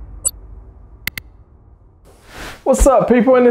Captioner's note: button clicking; air whooshing